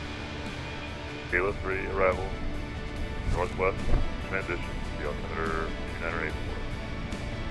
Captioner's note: ATC Chatter